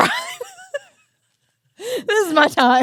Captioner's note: both laughing